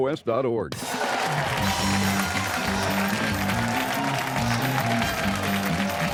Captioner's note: cheers and applause